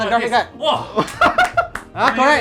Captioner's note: applause